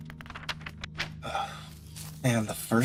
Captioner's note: Arkat Sighs